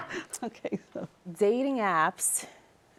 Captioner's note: laughter